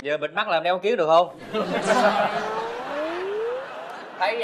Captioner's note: laughing + Sound effect